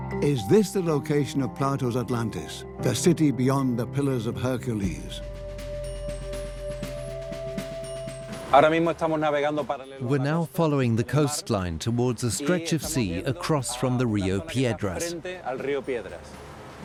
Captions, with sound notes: Is this the location of Plato's Atlantis, the city beyond the Pillars of Hercules? (drumming music) (Spanish dubbed into English) We're now following the coastline towards a stretch of sea across from Rio Piedras.